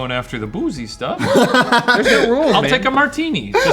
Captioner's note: laughs